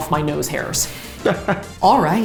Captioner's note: laughs